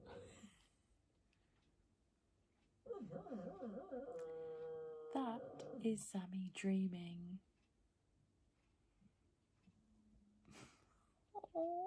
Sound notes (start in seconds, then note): 6.1 dog noises in background